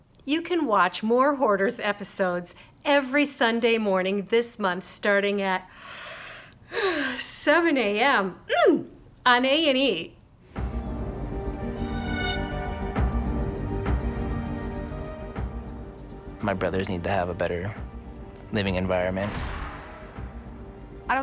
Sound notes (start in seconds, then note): 6.3 yawns